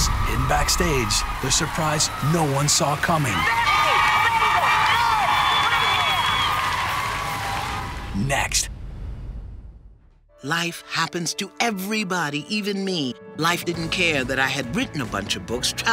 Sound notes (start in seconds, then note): 5.8 applause; 6.7 cheering